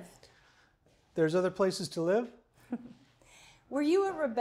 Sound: chuckles

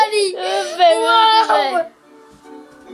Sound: laughing

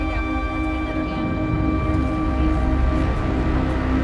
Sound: steady beep

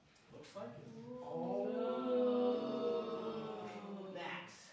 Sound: audience oohs

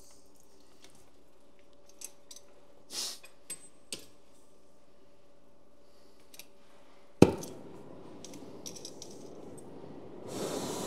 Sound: silence/Noise - likely heating and waiting

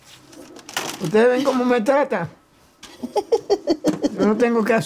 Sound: Spanish

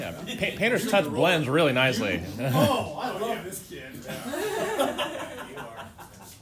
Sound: laughter

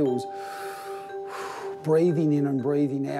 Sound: inhaling, exhaling

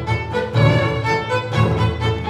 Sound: none

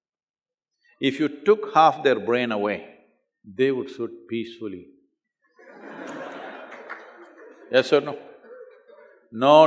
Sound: laughter

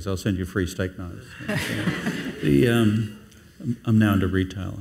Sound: audience laughs

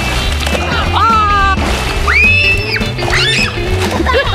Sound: screaming

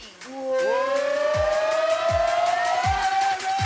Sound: cheers

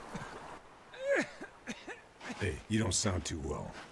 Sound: coughing

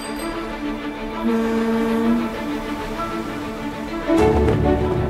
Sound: bicycle bell ringing; boat horn honking

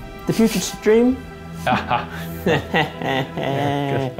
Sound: laughing

